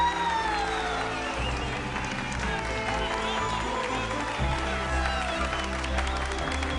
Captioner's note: Aplausos